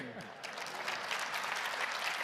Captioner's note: applause